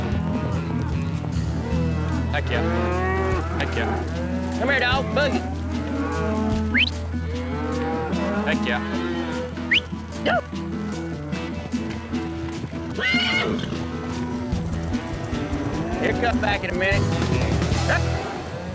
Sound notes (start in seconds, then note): 6.7 whistles; 9.6 whistles; 9.9 cattle mooing; 13.7 horse whinnies